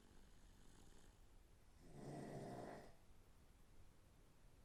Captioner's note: Phil snoring